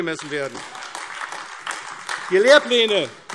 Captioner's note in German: Beifall AfD